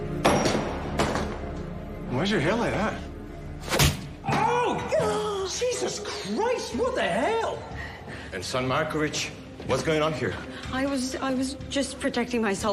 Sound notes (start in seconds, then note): 5.4 groans